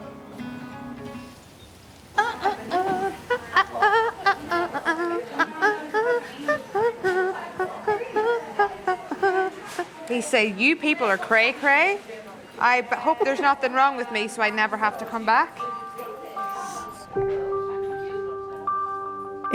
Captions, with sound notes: (gentle music) (nurse humming) - He saying, "You people are cray, cray. "I hope there's nothing wrong with me "so I never have to come back." (gentle music)